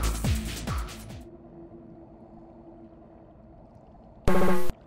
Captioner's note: silence